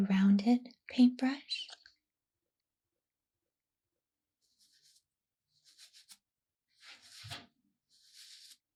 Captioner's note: brushing sounds